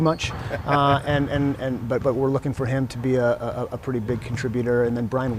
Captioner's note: brief laughter